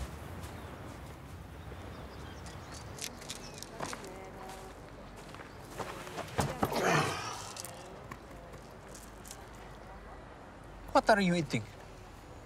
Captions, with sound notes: [Grunts] What are you eating?